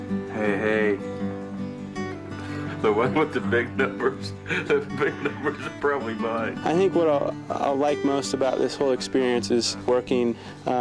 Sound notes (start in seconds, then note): 2.2 laughing